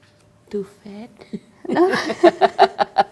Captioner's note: laughs